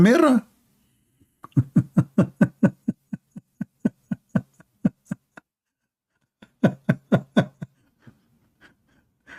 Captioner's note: Ketawa